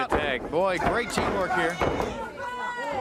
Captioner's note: crowd chatter